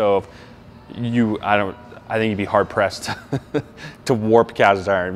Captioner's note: laughs